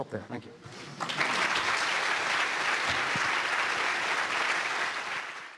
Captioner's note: applause